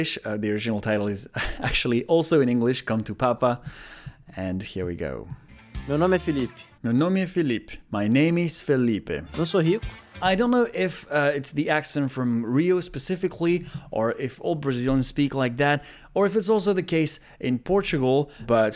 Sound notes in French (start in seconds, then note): 6.6 répète la phrase en portugais; 7.8 lit la traduction en anglais